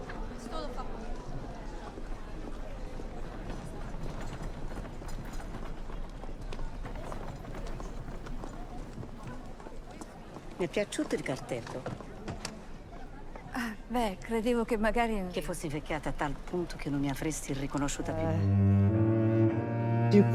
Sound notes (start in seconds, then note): 2.2 background talking; 8.3 dialogue in Italian